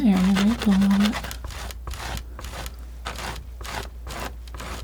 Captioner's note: scratching